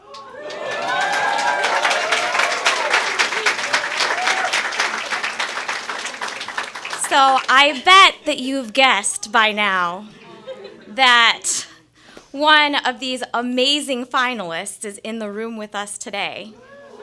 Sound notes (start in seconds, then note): 0.0 cheers and applause; 10.1 laughing